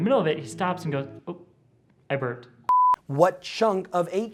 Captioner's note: beep